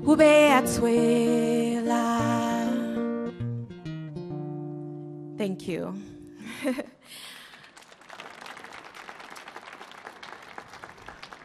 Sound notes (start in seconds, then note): 7.2 audience clapping